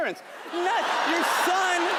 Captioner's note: audience laughing